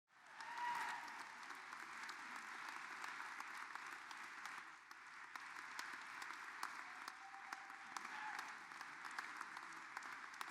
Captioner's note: applause